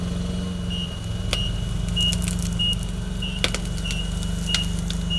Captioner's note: fork truck beeping